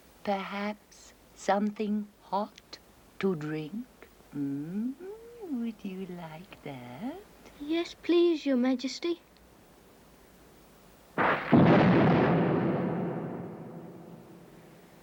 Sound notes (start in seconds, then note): 11.2 thunder crashes